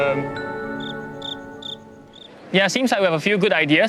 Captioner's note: crickets chirping